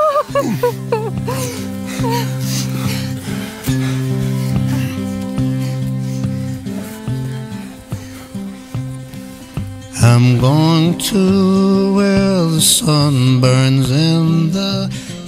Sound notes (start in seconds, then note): 3.2 panting